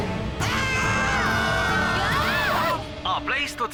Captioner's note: screaming